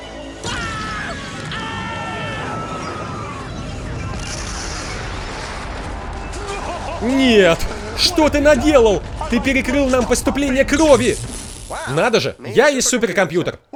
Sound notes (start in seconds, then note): 0.2 <i>yelling</i>; 2.2 <i>explosions</i>; 9.3 <i>electrical frizzing</i>